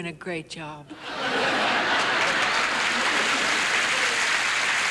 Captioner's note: audience laughing and applauding